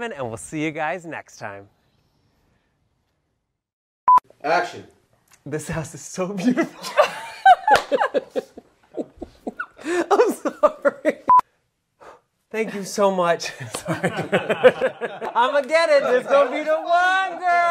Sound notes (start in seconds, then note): 6.4 all laughing; 13.8 giggles